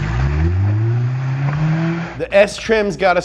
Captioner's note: engine revving